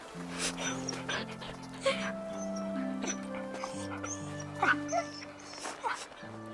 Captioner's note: Buck whimpering; Ryann crying